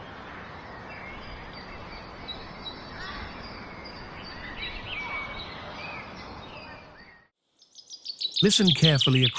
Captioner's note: birds chirping